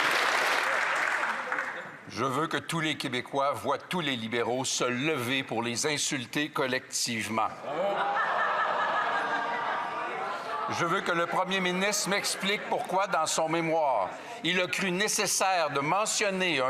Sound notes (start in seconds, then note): 0.0 applause